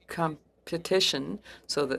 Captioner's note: speaking French